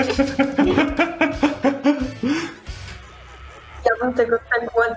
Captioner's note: laughter